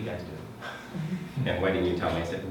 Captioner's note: laughing